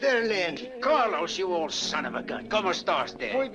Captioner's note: speaks Spanish; Carlos speaks Spanish